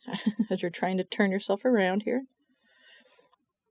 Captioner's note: laughs